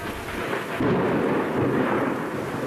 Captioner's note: thunder